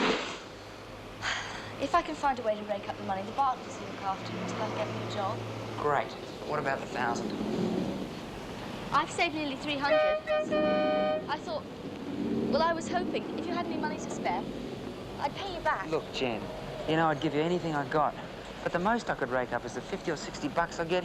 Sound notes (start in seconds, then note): 1.2 sighs; 9.7 strident honking